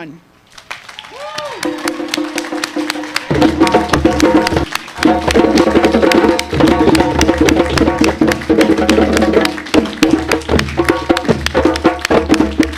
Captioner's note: applause and musical fanfare by the drum ensemble